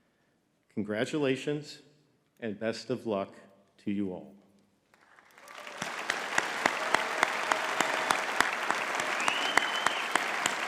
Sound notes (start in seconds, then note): 5.0 audience cheering and clapping